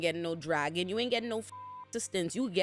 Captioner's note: beep